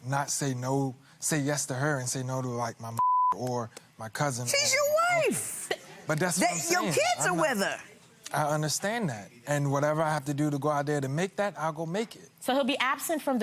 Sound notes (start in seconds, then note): 3.0 beep